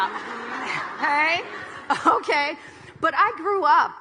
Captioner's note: audience laughing